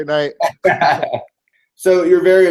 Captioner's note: laugh